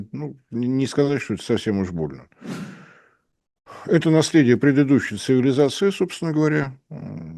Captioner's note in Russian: вздыхает